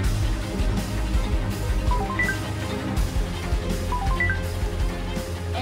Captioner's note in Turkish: Telefon Çalıyor